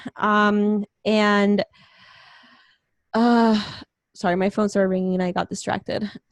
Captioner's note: sighs